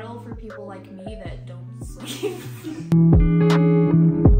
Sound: laughs

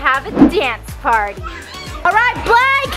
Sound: scream

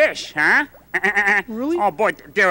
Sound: chuckles

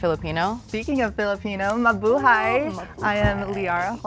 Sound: speaking foreign language

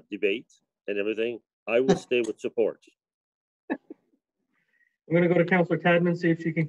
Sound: laughs

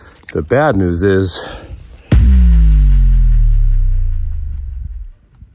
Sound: dramatic sound

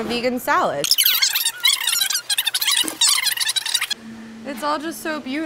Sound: fast forward squeaking

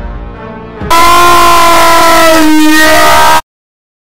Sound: 10x angry shout

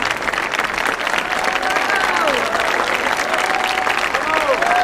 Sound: audience cheering

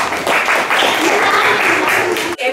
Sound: applause

